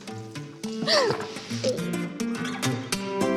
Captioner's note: breathes deeply; giggles